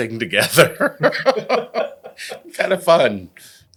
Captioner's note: laugh